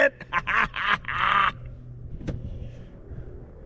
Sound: laughs

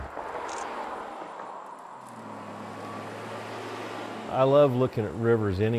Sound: car engine revving

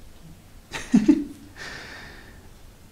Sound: laughs

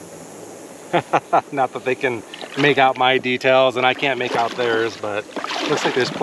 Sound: laughing

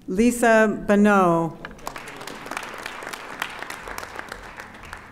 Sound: audience applauding

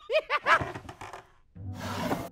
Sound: chittering laugh; creak

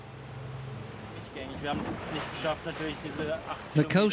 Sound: speaking in German

